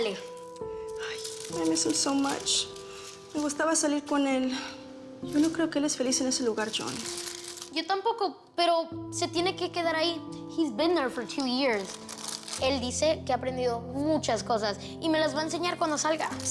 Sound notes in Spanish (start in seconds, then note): none